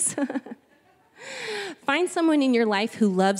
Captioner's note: chuckling